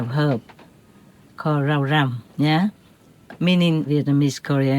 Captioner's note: Vietnamese